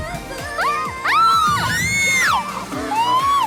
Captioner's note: screaming